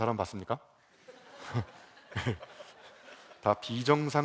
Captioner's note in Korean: 웃음